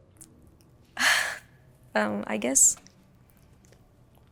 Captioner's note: sighs